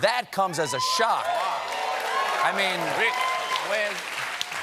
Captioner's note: cheers and applause